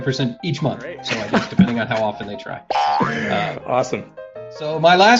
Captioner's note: sound: Boing